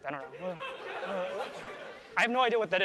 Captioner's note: laughter